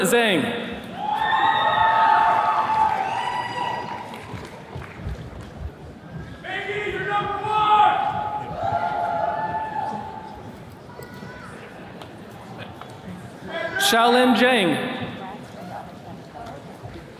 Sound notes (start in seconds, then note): 0.8 attendees cheering; 8.4 attendees cheering